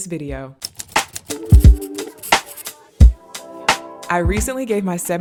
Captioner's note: typewriter clacking; upbeat music